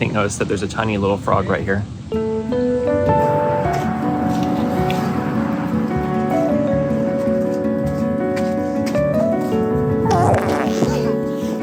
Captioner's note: Bog of eternal stench sounds